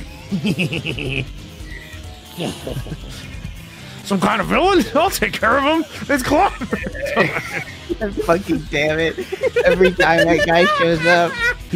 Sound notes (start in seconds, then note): 9.2 laughs